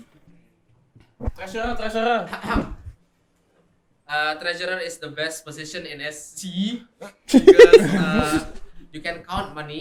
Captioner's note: ehem